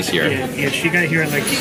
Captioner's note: none